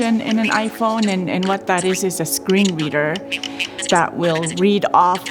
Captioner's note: sound of a screen reader at 2X speed